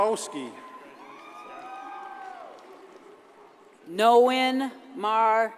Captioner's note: audience cheers and applauds